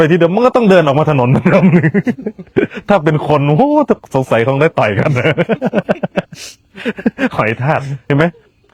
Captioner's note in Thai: เสียงหัวเราะ